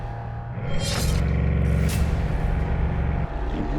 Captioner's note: engine starts